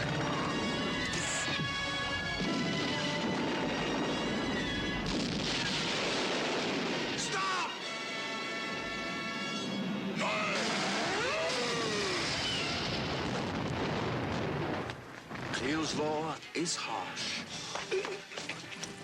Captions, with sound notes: (pod gun whooshing) (dramatic music) (flasks exploding) - Stop! (Qahhar grunting) (fire whooshing) - Kleel's law is harsh. (laughing)